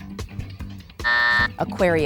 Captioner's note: buzzer sounding